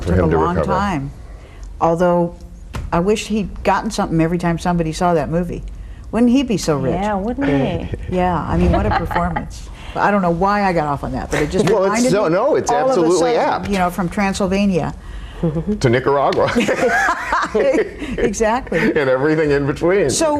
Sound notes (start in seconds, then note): 17.0 laughing